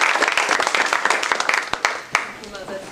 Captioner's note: applause